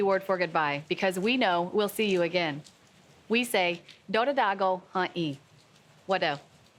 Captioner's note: speaks Cherokee language